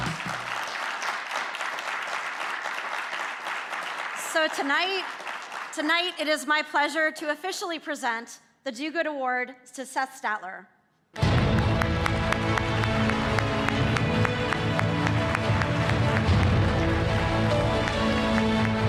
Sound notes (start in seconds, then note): 0.0 audience clapping; 11.1 audience clapping; 11.1 dramatic music